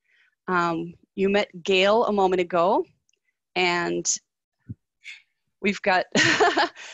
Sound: laughs

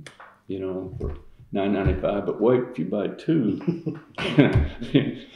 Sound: laughter

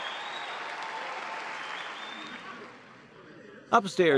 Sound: cheers and applause

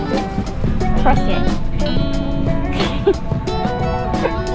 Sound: laughs

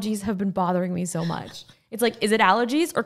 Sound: laughing

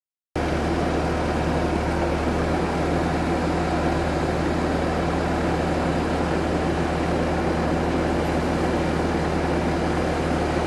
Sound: silence; skid-steer engine running

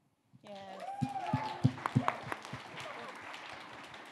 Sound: audience cheering

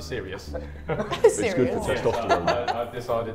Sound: laughs

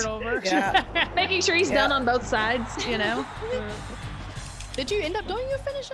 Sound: laugh

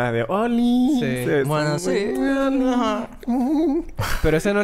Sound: laugh

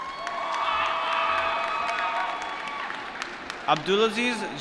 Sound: applause

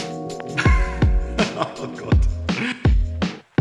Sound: laughing

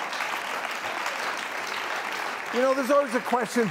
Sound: clapping

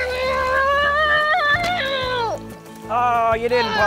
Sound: yelling

